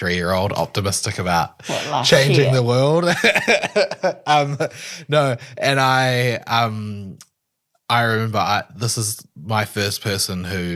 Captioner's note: laughs